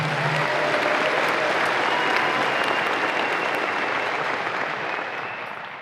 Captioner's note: audience applause and cheers